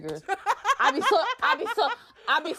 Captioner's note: laughter